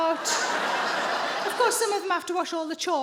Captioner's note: audience laughing